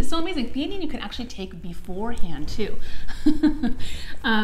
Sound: laughs

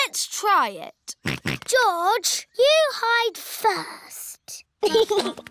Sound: snorts; chuckles

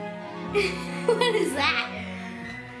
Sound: laughs

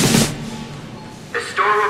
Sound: drums pounding; cash register beeping

